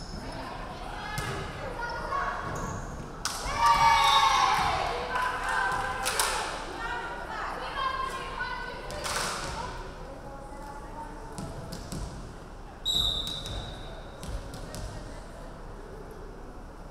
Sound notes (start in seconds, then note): 3.4 crowd cheering; 3.5 referee whistling; 12.8 referee whistling